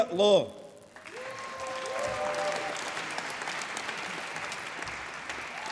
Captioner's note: applause